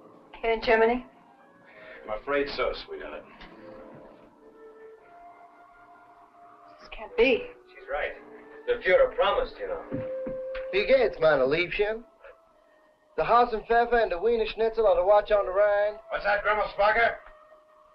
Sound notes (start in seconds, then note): 10.9 speaking in a foreign language